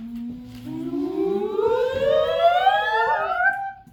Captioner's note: fastforwarding sound effect